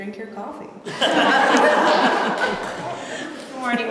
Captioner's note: laughter